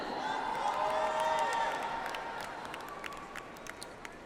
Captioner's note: audience applauds